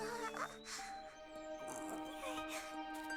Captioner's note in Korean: 끙 소리